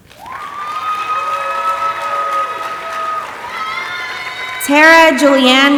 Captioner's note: audience applauding and cheering